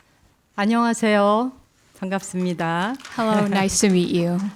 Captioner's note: speaking in Korean